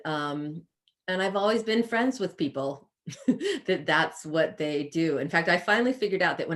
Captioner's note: chuckles